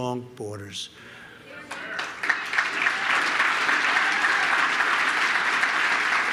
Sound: applause

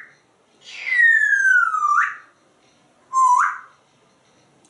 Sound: whistles

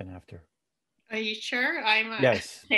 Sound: laughs

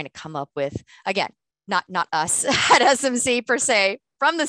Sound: laughter

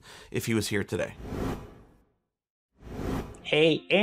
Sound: dots whooshing

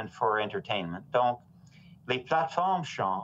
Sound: speaking in French

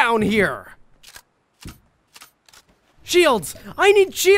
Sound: gun clicks

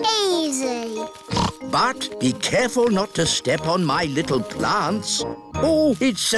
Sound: snorts

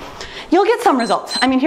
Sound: timer beeps

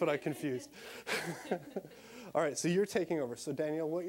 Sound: all laughing

